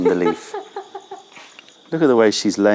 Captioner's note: laughter